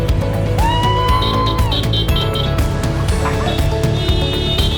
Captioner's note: crowd cheering